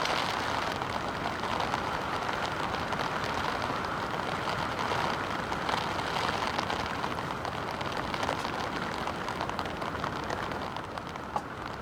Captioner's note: sound of heavy rain